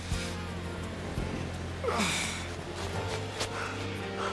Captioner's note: grunting